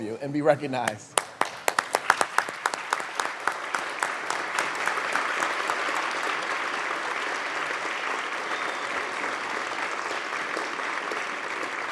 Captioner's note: applause